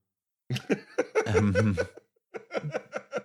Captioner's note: laughs; laugh